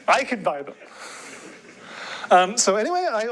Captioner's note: laughter